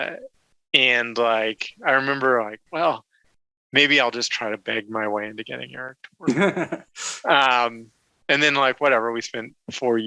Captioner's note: laughs